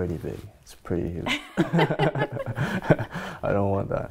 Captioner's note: laughing